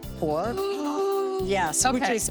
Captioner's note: exclaiming in excitement